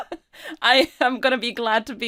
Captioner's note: laughing